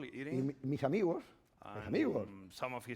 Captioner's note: speaking spanish